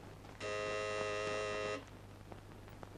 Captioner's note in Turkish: Kapı zili